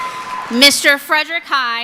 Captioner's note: applause; cheering